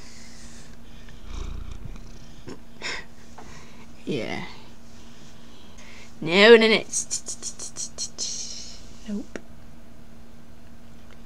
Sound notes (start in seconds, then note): 1.0 purring; 2.8 chuckle